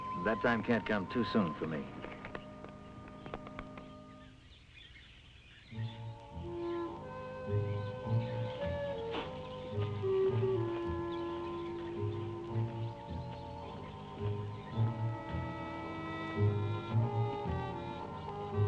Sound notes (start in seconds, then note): 2.2 birds chirping; 2.2 gentle music